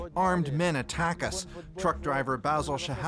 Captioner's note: speaking alternate language